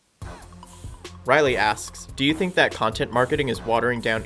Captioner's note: voiceover